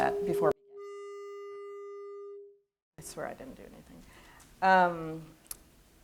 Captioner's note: audio feedback noise